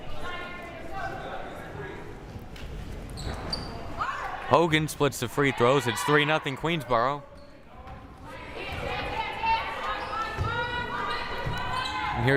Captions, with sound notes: (player shouting) Hogan splits the free throws, it's three nothing Queensborough. (crowd cheering)